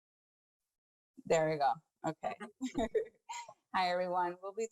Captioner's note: chuckles